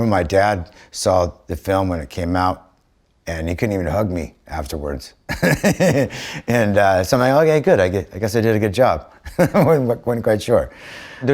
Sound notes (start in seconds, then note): 5.3 laughs; 9.2 chuckles